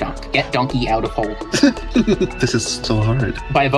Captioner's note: Buridan’s donkey noises